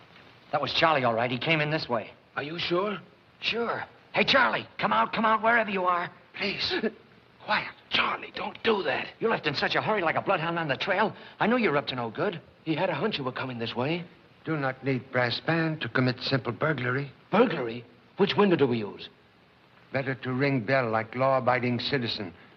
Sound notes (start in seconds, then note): 6.2 whispering; 7.5 gasps